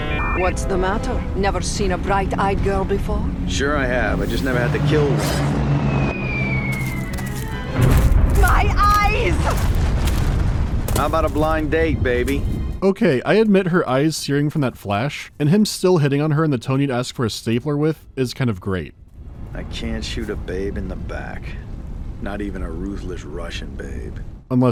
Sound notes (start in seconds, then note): 0.0 dial-up sounds; 5.3 whistling of a falling bomb; 7.7 bom